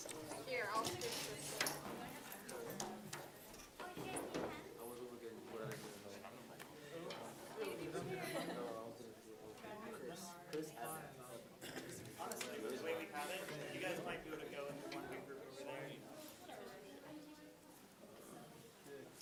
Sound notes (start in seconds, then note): 2.2 students chattering